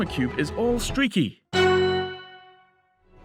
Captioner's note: ding